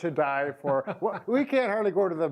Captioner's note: laughs